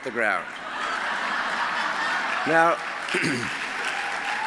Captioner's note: laughter